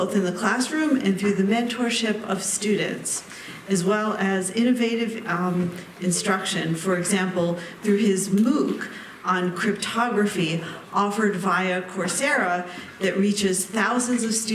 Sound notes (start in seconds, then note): none